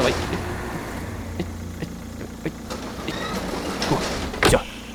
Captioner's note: careful docking noises